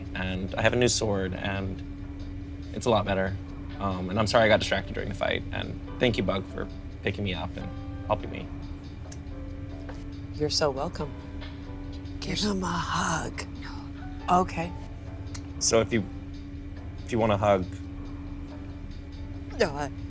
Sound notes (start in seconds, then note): 14.4 whispers